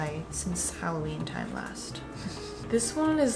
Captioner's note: laughs